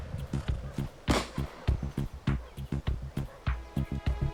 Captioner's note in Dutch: geweer vuurt; dramatische muziek